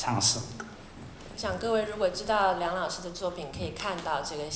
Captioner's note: Mandarin